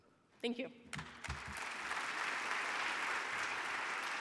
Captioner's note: audience cheering